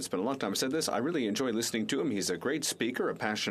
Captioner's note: speaking FRENCH